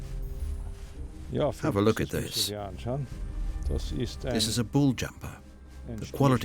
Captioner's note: in German